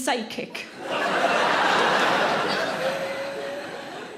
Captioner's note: audience laughs